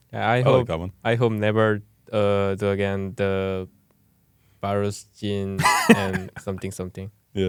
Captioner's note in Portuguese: risos